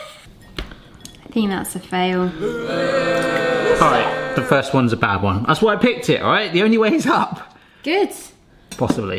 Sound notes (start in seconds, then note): 2.3 crowd booing